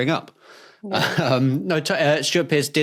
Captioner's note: chuckles